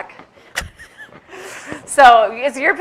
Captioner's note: chuckles